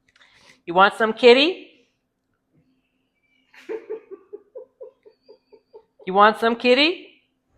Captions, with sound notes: You want some kitty? (Laughter)